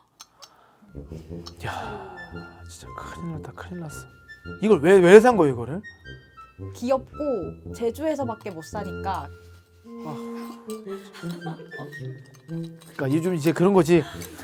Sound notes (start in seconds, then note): 10.0 sighs so deep he can't lift his head